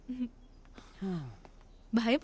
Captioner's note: Sighs